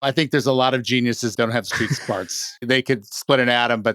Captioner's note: chuckles